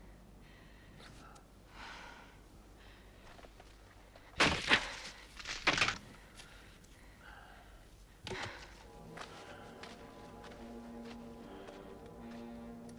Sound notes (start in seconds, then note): 4.6 weapon handle snapping; 8.8 dramatic music